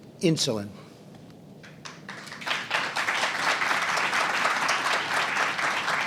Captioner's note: applause